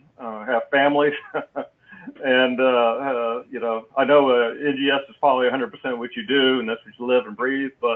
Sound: laugh

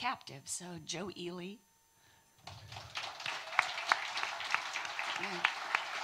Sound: audience applauding

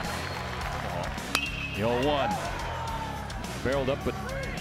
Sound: crack of the bat

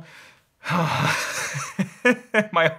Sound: sighs; laughs

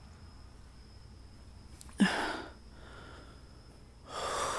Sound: gasp for air

